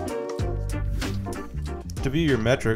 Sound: air whooshing

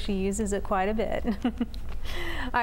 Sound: giggle

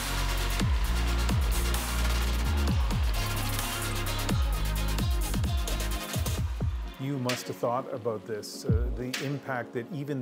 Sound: cheers and Applause

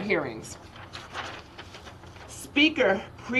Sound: paper rustling

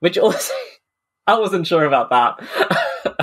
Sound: laughing

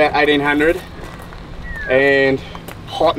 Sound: man whistles

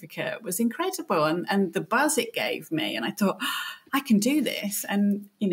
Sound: gasp

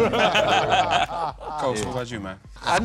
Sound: laughter

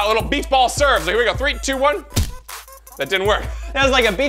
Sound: thud

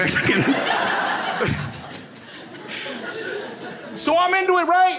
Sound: crowd laughs

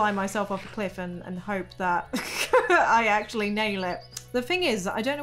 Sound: laughs

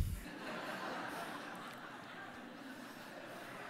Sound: audience laughing

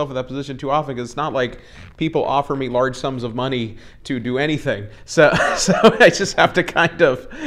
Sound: laughs

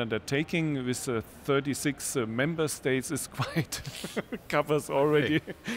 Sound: laughs

